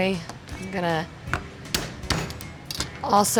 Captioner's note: hand pounding knife